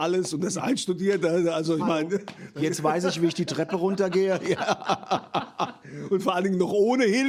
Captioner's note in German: gelächter